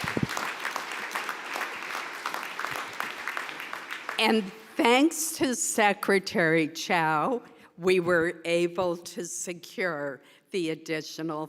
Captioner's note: applause